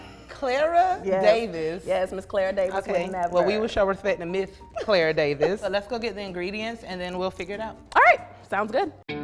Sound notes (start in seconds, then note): 4.9 laughs